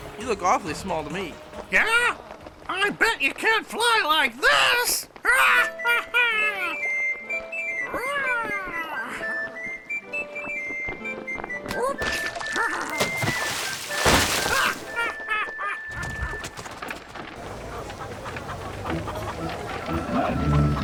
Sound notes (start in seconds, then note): 6.3 música animada; 14.5 Rupert riendo